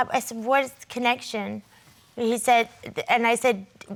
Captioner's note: none